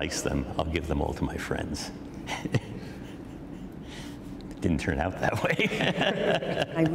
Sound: laughter

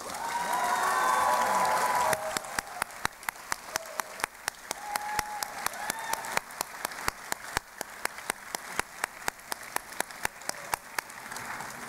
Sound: cheering and Applause

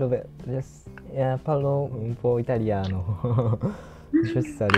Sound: Italian

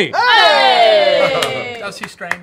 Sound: cheers

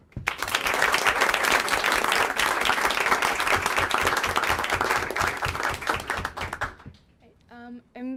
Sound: applause

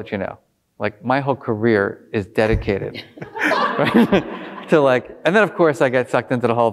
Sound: laughing

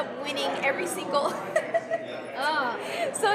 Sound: laughs

